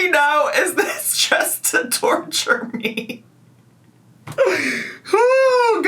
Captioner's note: laughs